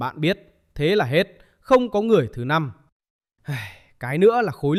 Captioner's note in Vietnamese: thở dài